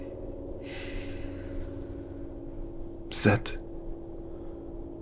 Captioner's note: sighs